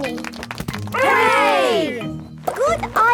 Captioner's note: crowd applauding